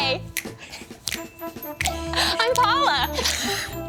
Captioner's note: snaps; giggles